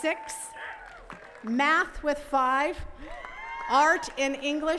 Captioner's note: attendees cheers and claps; attendees cheers and claps